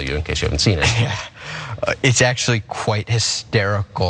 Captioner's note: laugh